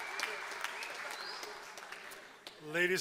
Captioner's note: applause